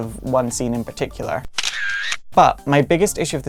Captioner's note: camera Snap